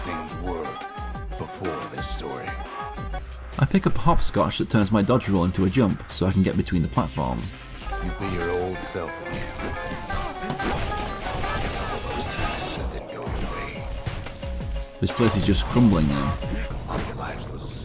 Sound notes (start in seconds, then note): 7.9 in-game audio